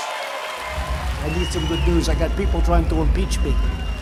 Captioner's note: cheers and applause